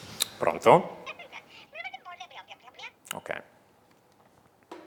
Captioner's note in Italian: squilla il telefono; vociare indistinto